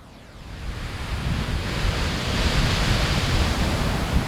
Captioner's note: sea waves crash